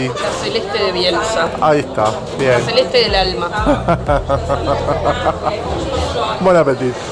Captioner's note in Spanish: risas